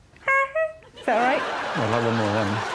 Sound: makes horn noise

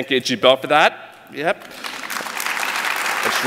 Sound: applause

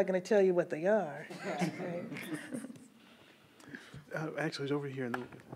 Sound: everyone chuckles

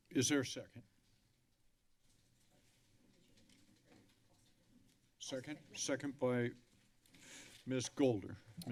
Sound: none

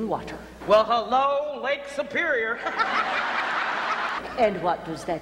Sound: audience laughter

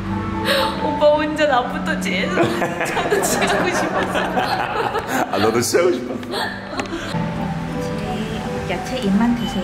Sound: laughing

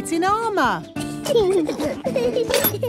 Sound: children giggling

